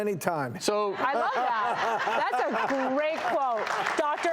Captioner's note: audience laughing